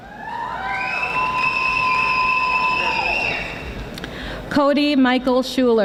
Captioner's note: audience applauding